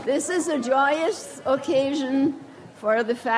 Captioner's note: none